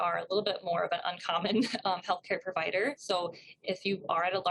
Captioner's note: chuckles